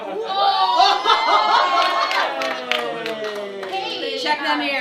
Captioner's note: cheering